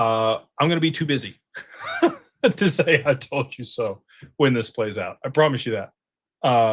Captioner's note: laughter